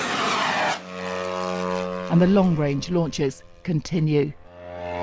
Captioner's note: drone